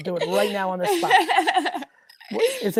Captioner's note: laughs